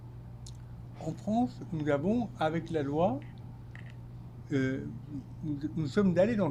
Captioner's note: speaking French